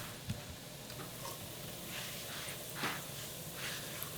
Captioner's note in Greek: τσιτσίρισμα